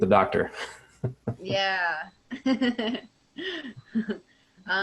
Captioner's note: laughter